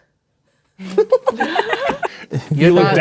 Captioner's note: players laughing